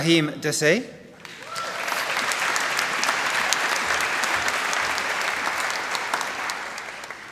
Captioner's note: applause